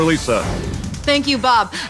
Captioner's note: air whooshing